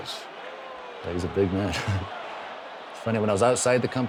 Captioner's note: chuckles